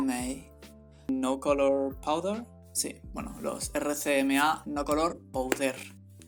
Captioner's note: spanish accent